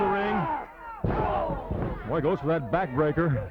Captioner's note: body thudding